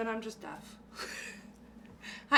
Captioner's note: laughing